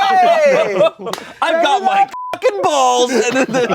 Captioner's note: everyone laughs; beep; everyone laughs